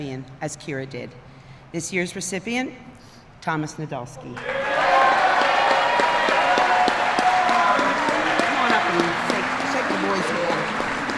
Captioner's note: applause